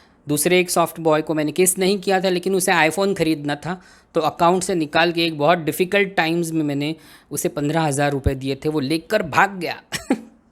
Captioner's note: amused laugh